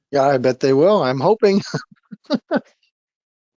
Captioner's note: laughing